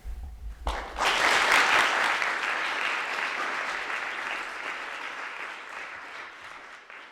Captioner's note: crowd clapping